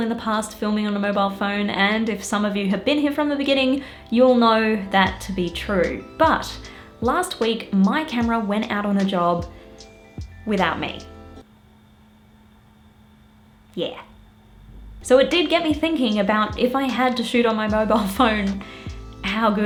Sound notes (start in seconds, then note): 11.5 silence